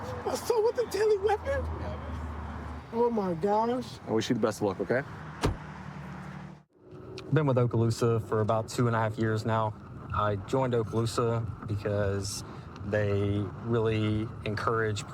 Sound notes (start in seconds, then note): 5.4 door bangs